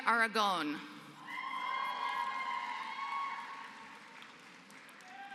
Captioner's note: applause